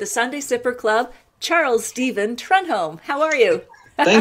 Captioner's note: laughs